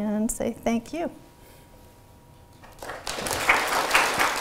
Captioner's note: applause